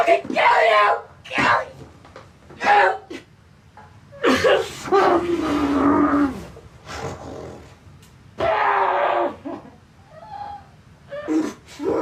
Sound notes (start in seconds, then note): 3.0 grunting; 4.2 Billy crying; 7.1 Billy growling; 8.4 Billy crying; 11.8 Billy groaning